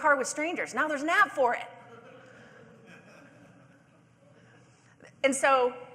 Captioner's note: audience laughing